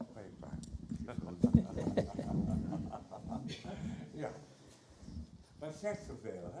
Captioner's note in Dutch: gerommel met de microfoon